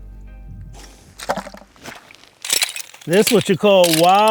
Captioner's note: bucket rattles